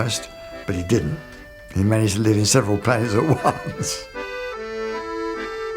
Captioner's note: laughs